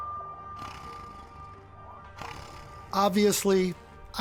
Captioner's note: slow tense music; Bigfoot growling